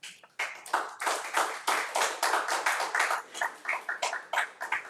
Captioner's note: crowd applauding